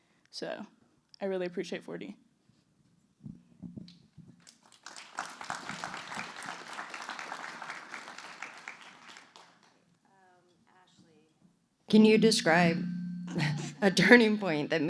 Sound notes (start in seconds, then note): 4.4 applause